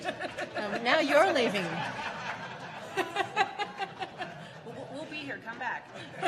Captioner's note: laughing